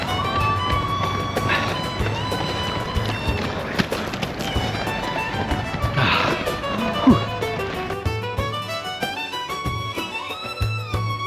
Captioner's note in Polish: Aplauz